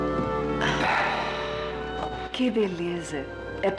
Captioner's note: sighs